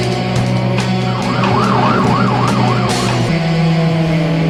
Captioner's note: siren wailing